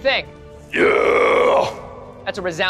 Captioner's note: screaming